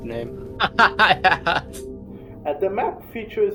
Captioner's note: laughs